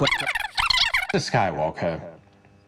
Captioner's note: disk scratching